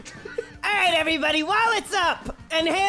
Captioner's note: yelling